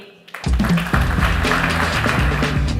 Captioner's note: applause